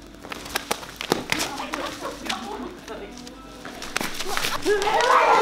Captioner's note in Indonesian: Footsteps on the newspaper